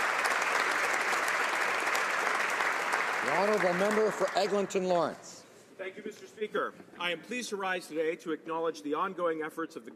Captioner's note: some Applause